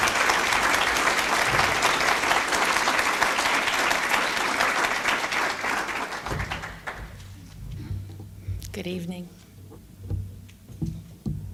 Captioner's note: applause